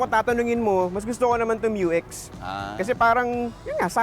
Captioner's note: none